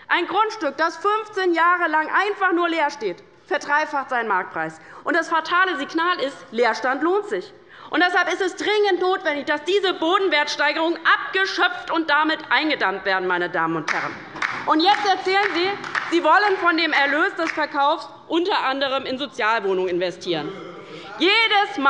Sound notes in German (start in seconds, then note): 13.9 Beifall bei der LINKEN; 20.4 Lachen